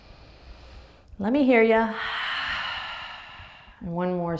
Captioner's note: exhales loudly